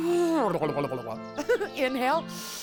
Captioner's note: she makes silly sound. Giggles